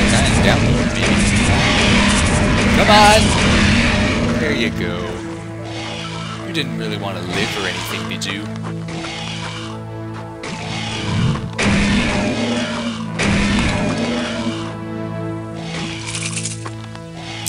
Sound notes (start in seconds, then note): 0.0 gunfire and monster shrieks; 5.0 gunfire and monster shrieks; 13.2 gunshot